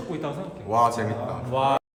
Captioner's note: sarcastic tone